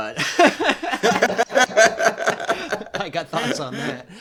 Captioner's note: laughter